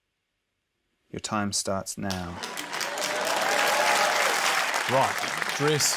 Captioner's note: cheering, applause